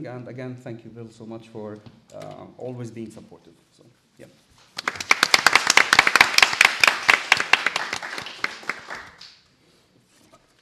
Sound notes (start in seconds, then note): 4.6 applause